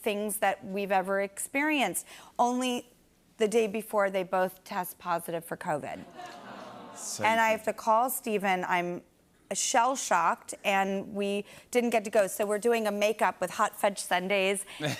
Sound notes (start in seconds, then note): 6.0 audience "Awws"